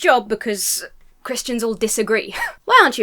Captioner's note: wheezes